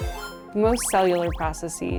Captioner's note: graphics chiming